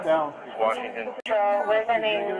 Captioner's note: radio chatter